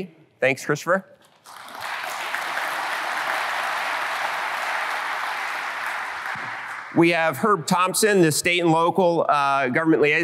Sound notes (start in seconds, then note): 1.3 applause